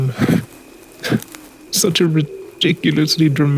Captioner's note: soft Laugh